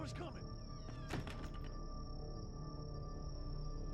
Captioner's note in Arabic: الباب يُغلق; موسيقى متوترة